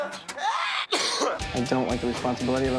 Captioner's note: coughing